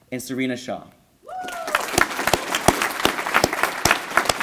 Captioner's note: applause